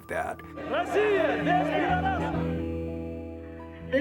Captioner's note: protestor's chanting